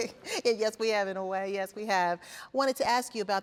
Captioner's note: laughs